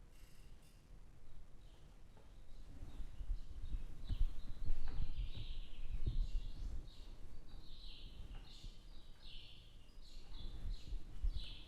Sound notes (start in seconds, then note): 4.6 chirping